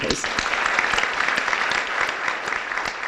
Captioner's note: applause